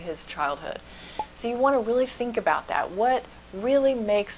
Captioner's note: pop